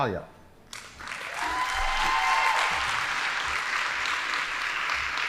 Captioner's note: audience applauding